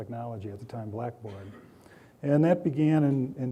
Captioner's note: coughing